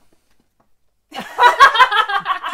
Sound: laughter

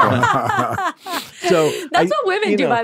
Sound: group laughing

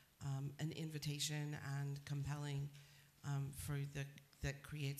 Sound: none

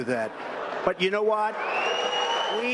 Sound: applause

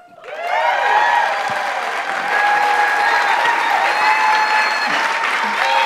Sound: audience applauds and cheers

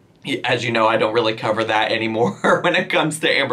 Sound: laughs

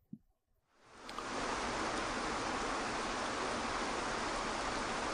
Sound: waterfall burbling

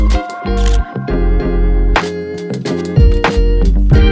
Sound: camera shutter clicks

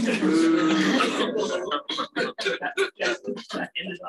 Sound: laughter

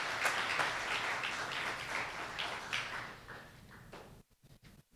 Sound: applause

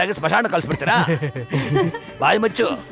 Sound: laughs

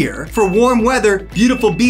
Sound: graphics ding

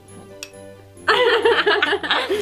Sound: clink; laughter

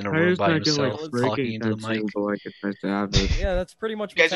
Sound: gasps

